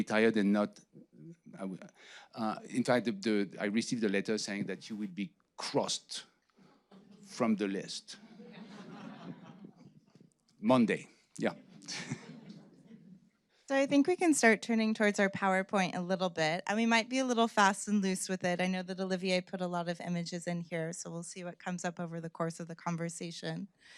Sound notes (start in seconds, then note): 8.2 audience laughing